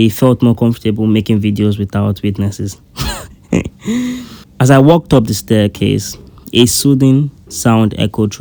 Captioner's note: laughs